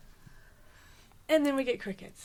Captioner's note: silence